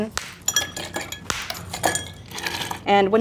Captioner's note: ice clinking